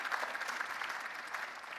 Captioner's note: cheering and applause